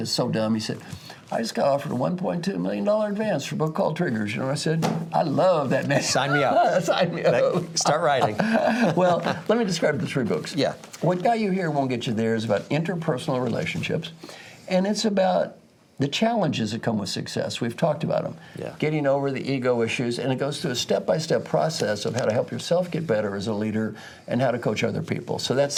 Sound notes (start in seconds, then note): 5.8 laugh